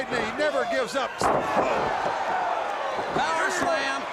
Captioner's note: crowd cheering